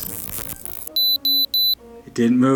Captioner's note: digital buzzing and beeping